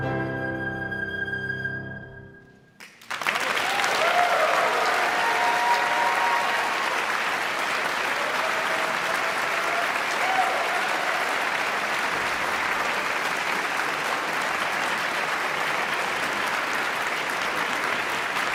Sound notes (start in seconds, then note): 3.0 all clapping; 5.4 audience cheering